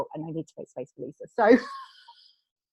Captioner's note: laughs